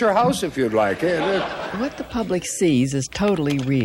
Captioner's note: laughter